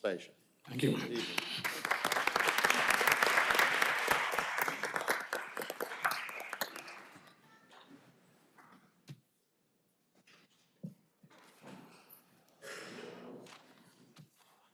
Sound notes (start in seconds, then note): 4.0 applause